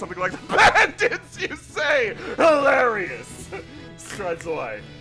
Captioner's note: yelling, laughing